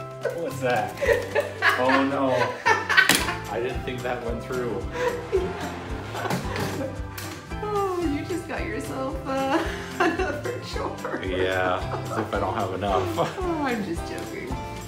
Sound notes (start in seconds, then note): 0.9 laughs; 4.9 laughs; 5.9 screen door; 9.4 laughs